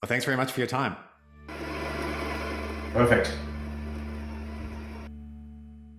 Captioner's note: engine whirs